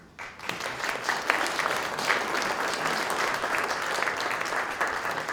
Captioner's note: applause